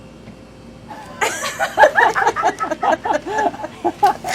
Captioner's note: laughing